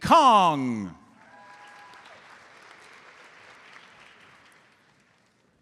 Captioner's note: audience applauds